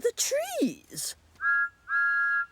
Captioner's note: whistle toots